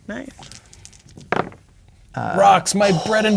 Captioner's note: dice rolling